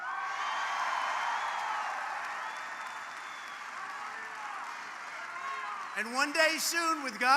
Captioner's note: applause